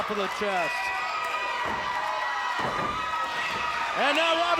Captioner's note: audience cheers